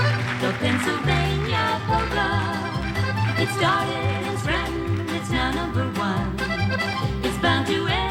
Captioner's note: applause